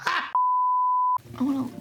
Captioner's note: beep